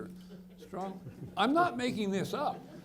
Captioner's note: people laughing